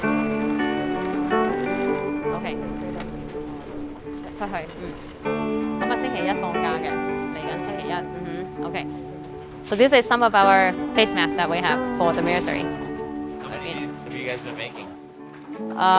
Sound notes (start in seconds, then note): 0.1 mellow music; 4.5 speaking in foreign language